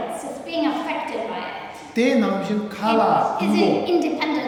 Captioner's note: speaking tibetan